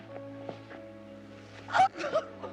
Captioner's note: gasping